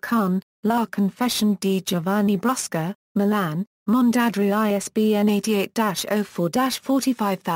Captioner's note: Italian